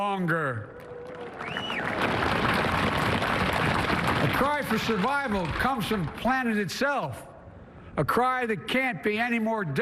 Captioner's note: applause